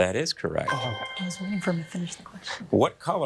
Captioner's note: bell dinging